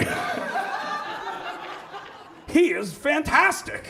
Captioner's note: audience laughs